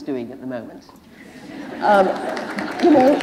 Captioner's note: applause